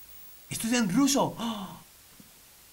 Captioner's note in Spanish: Sorprendido